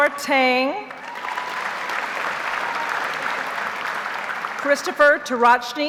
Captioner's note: audience applauds